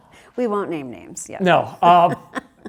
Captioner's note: laugh